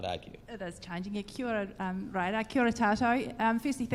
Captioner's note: speaks in foreign language